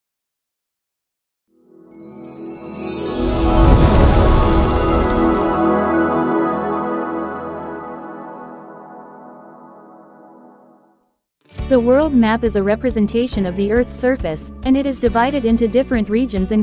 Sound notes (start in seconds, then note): 2.2 opening sound effect